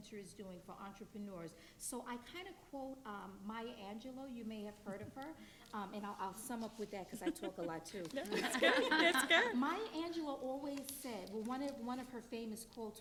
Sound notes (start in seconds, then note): 8.3 panelist and audience laughing